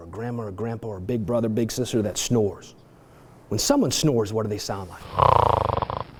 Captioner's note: snoring noise